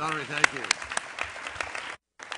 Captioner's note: applause